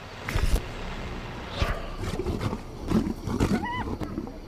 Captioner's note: growls